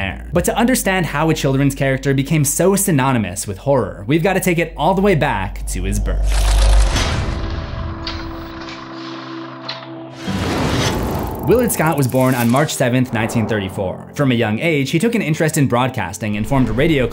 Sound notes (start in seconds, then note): 6.2 impact